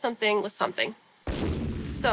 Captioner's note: boom